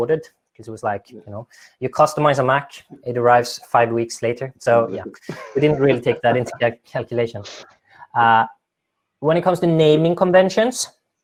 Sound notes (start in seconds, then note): 4.7 laughing